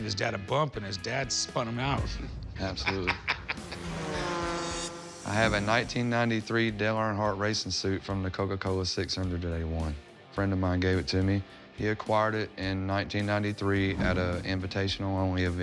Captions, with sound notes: and his dad spun him out. - Absolutely. - [laughs] [engines roaring] I have a 1993 Dale Earnhardt racing suit from the Coca-Cola 600 that he won. Friend of mine gave it to me. He acquired it in 1993 at a invitational-only event.